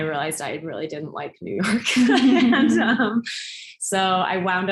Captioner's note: both laugh